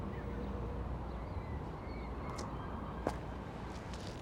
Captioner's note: wind whistling